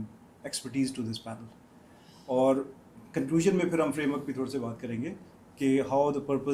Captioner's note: none